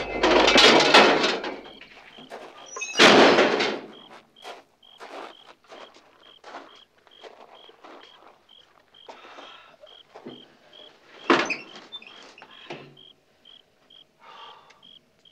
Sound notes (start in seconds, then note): 4.1 crickets chirping; 9.2 Otis sighing